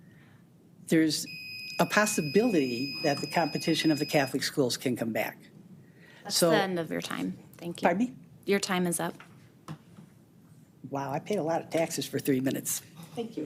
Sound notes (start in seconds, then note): 1.2 timer beeps